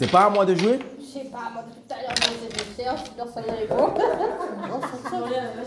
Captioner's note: laughs